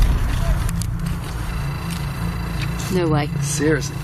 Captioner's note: metre beeping